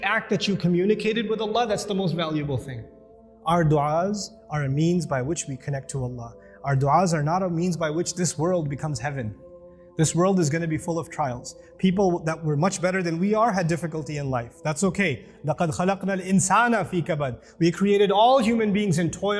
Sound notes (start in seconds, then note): 15.4 Arabic